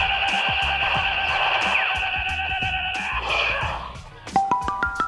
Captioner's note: laughs